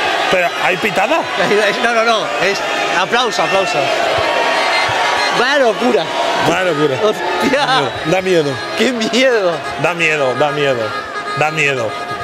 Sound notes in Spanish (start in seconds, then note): 4.1 Ovación